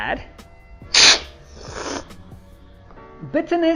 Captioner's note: slurping